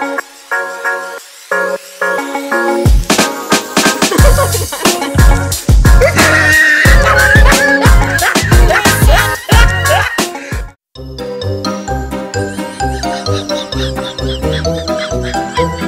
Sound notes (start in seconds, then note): 4.0 laughter; 6.1 guffaw